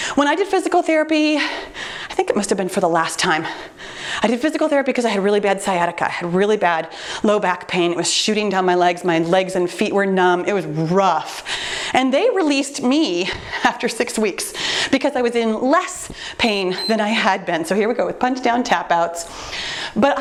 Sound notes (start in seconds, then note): 16.5 timer beeps